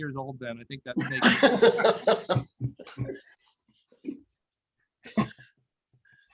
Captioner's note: laughter